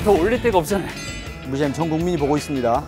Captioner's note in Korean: 복싱 벨소리